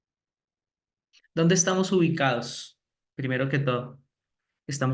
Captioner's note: speaking spanish